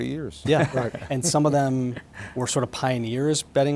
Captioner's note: laughing